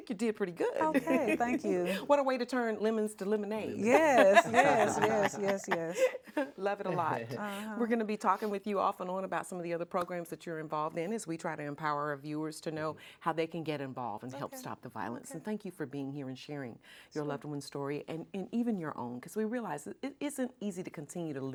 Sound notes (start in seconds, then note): 0.8 laughs